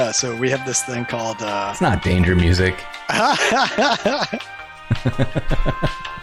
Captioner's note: elevator music; laughter